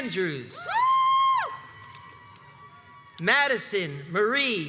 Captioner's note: crowds cheers and applauds